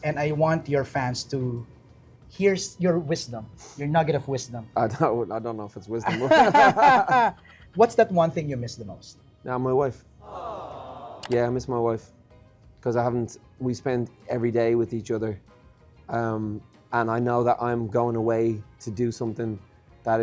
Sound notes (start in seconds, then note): 6.2 laughs; 10.2 aww sfx playing